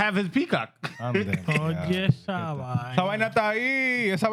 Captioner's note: laughing; speaking Foreign Language